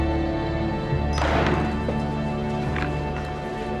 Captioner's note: <i> slams on table</i>